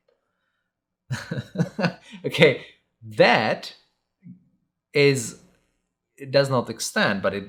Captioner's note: chuckling